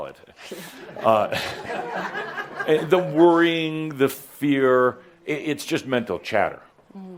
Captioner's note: laughter